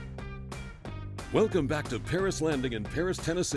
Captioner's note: voiceover